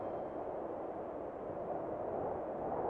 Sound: wind whistling

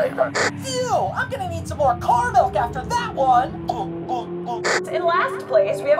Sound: chugs

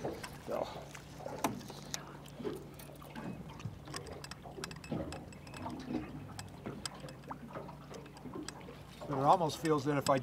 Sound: water lapping

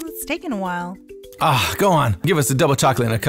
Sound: sighs

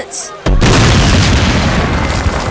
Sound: explosion

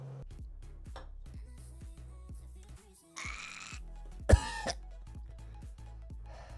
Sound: gagging

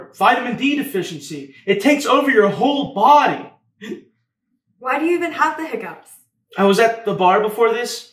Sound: hiccup

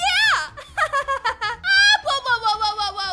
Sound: laughter

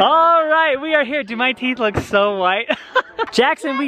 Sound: laughs

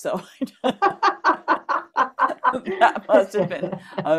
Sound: laughter

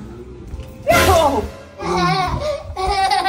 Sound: yells; laughs

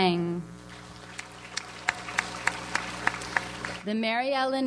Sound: audience applauds

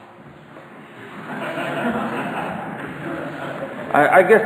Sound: audience laughter

